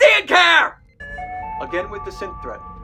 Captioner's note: P.A. tone